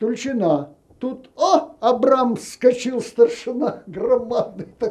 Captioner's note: laughing